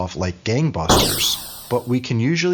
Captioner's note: whooshing